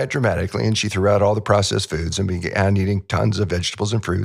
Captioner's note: laughs